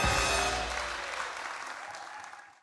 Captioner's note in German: Applaus